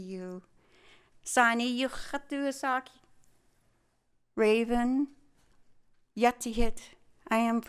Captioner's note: speaking tlingit